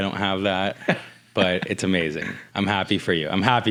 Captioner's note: laughs